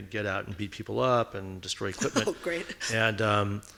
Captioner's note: laughing